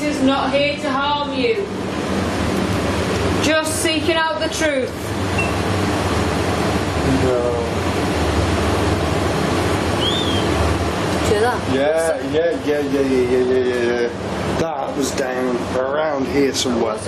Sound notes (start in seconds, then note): 5.3 device beeping; 9.9 whistling